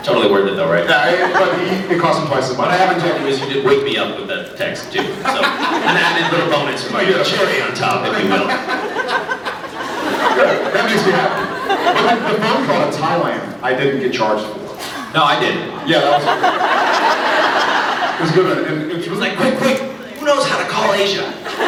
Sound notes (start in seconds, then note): 5.4 laughs; 9.0 laughs; 9.0 scattered laughs; 14.7 laughs